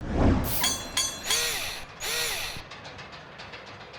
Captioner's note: mechanical SFX